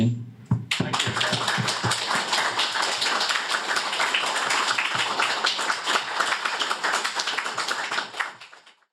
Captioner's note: applause